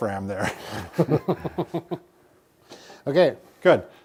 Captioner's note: chuckling